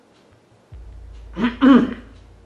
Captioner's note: coughs louder